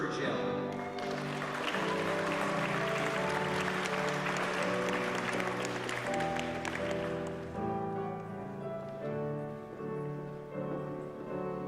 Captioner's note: applause